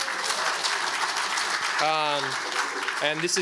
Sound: audience applauds

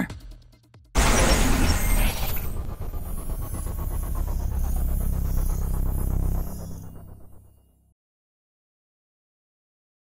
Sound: whirring

